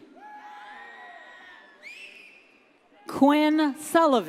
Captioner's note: audience cheers